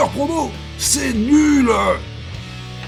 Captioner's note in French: ton d'un gamin qui boude